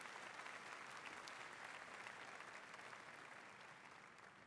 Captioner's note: applause